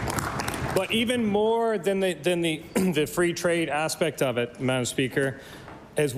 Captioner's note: applause